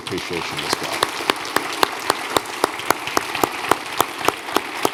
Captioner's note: audience applauding